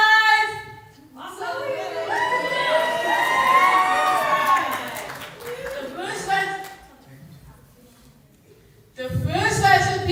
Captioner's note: cheers